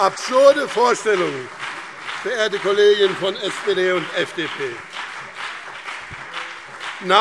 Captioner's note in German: Beifall BÜNDNIS 90/DIE GRÜNEN und CDU